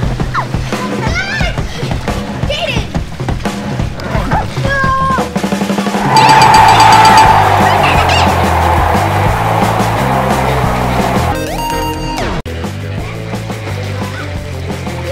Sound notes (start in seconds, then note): 6.0 ding, ding, ding, ding!; 12.5 fun music